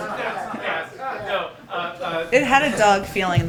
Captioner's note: laughter